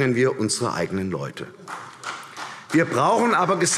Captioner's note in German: Vereinzelter Beifall CDU